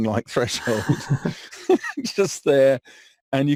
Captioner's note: laughs